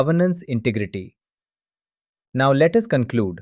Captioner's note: pause